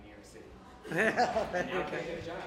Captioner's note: laughter